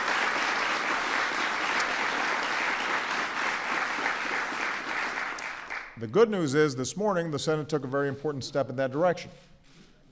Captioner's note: applause